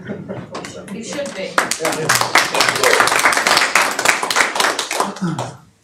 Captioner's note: audience applauding